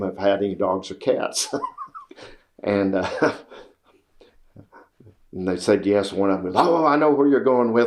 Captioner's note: laughs